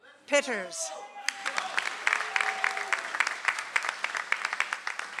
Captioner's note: audience applauds